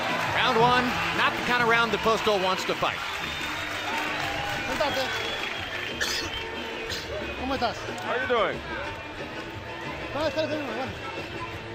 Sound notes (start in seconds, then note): 4.6 speaking Spanish